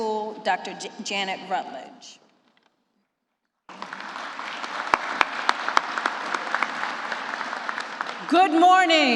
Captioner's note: applause